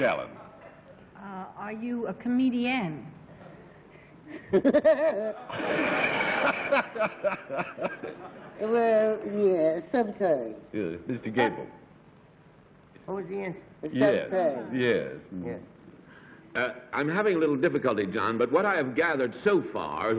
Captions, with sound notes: - Two down, and eight to go. Ms. Kilgallen. - Are you a comedienne? [giggles] [laughs] - Well, yeah. Sometimes. - Good. Mr. Gabel. - What was the answer? - Yes. Yes. - Yes. I'm having a little difficulty, John.